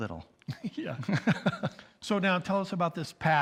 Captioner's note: chuckles